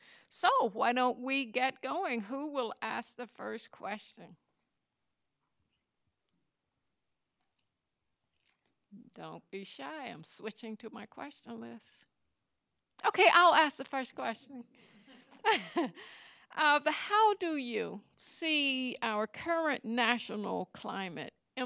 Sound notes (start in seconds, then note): 15.3 laughs; 15.4 audience laughing